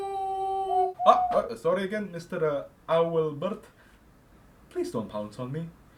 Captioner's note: hoot Hoot